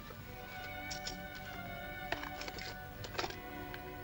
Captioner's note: jewelry jingles